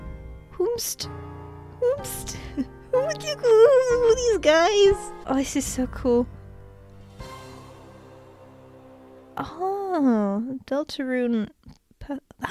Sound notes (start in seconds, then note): 2.6 excitedly